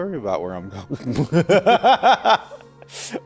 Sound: laughs like a goober

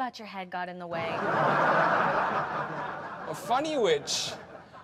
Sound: audience laughs

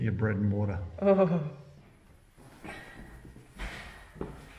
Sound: groans

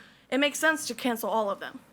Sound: none

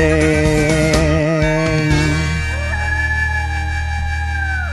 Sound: music stops; coyote howls

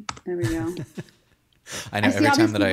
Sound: laughing

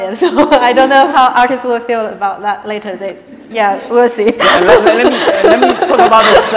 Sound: laughs

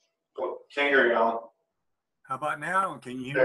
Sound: male Voice

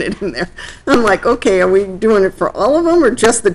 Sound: laughing

